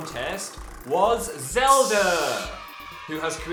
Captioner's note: drumroll; "Yay!" sound effect